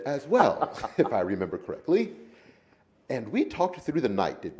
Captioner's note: men laughing